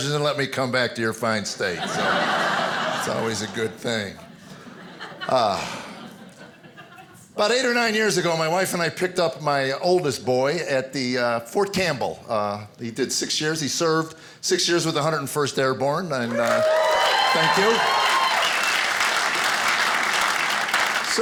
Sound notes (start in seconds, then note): 1.6 audience laughing; 16.2 applauding and cheering